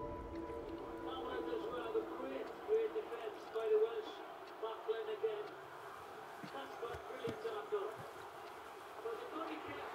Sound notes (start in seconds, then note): 1.4 TV playing